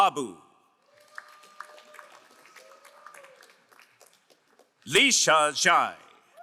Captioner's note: crowd applauding